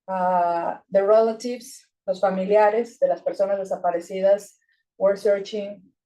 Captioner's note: speaking Spanish